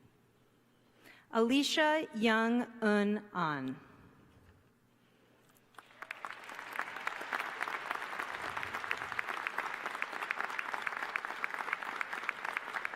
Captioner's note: applause